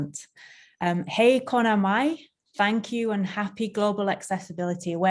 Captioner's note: speaks foreign language